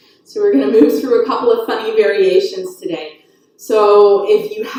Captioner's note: chuckles